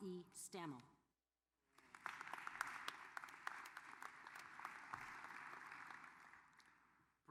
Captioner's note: applause